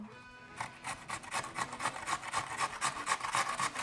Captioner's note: grating